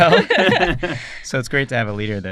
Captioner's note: laughter